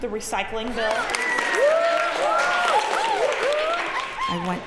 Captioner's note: cheers and applause